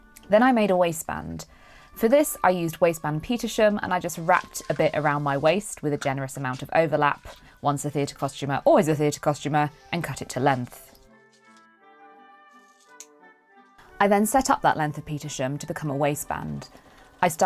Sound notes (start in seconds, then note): 12.6 snips